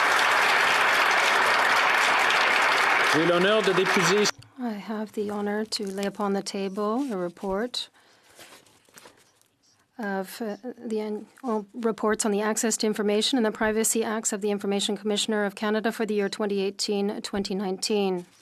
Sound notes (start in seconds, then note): 4.1 some Applause